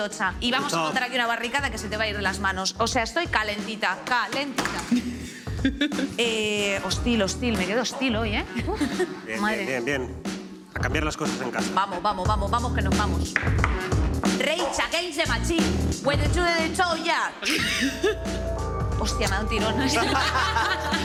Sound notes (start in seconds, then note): 15.6 hums; 19.6 laugh